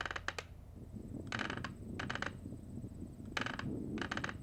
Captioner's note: rocking chair creaking; wind howling